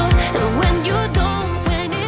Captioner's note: speaking foreign language